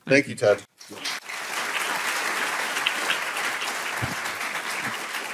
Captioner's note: applause